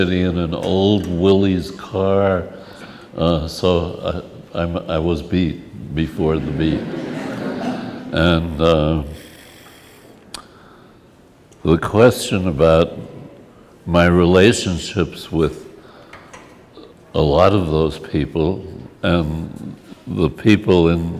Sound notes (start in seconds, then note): 6.4 laughs